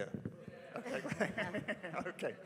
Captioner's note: laugh